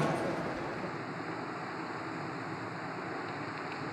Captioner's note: intro/outro sound plays; wind and nature sounds